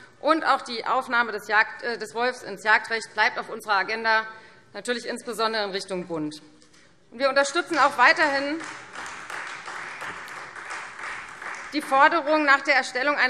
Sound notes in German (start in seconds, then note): 7.7 Beifall Freie Demokraten